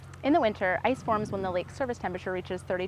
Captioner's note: none